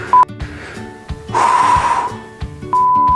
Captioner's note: exhale